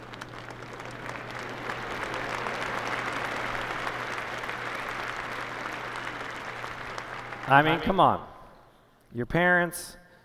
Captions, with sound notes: [ Applause ] I mean, come on. Your parents?